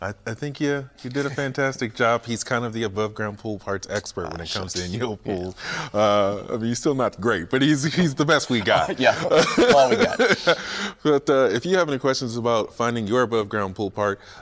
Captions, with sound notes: Yes, you did a fantastic job, he's kind of the above ground pool parts expert when it comes to INYOPOOL, but you're still not the great. He's the best we've got. [laughs] If you have any questions about finding your above ground pool part,